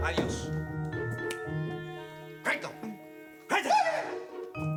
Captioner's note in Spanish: Gritos y exclamaciones